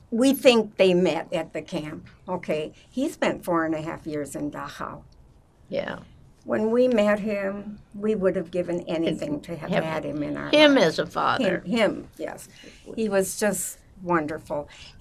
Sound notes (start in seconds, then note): none